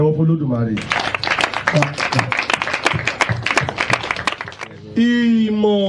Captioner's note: round of applause